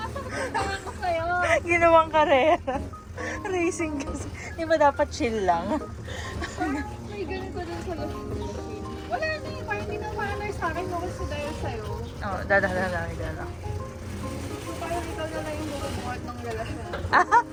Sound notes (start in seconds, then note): 5.2 laughs